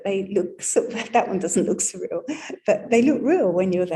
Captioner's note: laughing